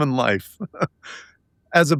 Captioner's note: laughing